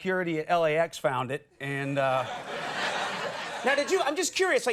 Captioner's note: audience laughs